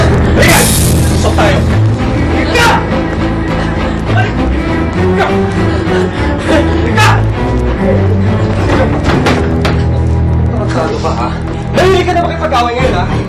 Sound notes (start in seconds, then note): 5.4 sobs